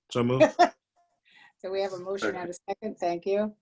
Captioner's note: laughter